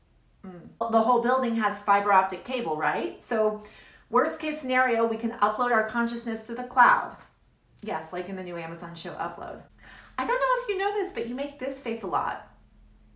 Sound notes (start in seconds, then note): none